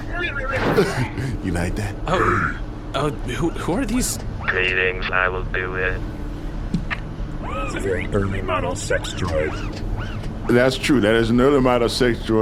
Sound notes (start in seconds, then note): 0.0 noises of people approaching; 3.3 deep robotic voice; 5.0 lighter robotic voice